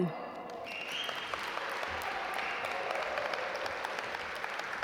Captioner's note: audience applaud